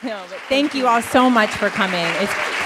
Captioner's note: applause